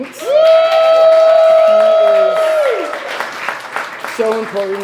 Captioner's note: applause